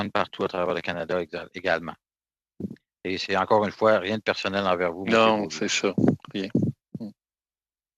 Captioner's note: speaking French